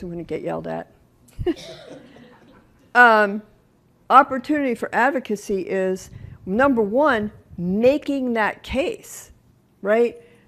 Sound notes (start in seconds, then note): 1.4 laughter